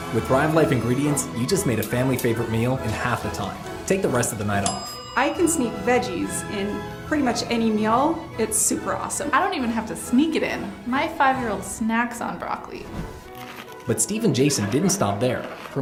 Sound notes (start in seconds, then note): 4.6 bell rings; 12.8 chewing